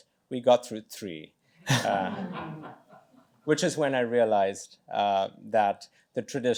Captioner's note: laughter